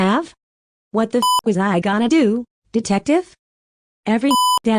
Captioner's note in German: Piep